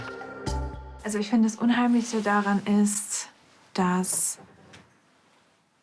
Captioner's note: speaks in German